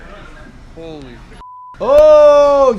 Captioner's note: beep